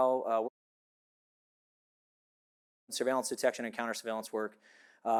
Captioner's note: audio cuts out